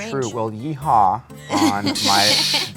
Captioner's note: laughs